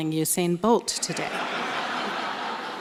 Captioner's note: laughter